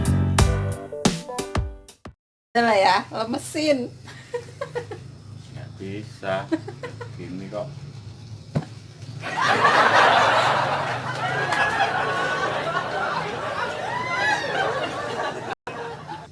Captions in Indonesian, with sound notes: lemesin lo yah hahaha (tertawa) tidak bisa